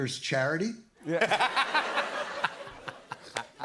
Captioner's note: laughter